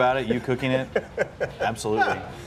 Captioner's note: Aaron laughs